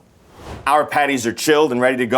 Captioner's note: note swooshes